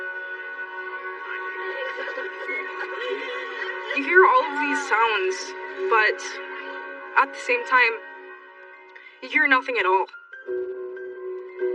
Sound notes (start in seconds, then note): 1.4 cryryining